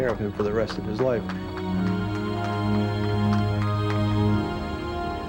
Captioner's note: volunteer clapping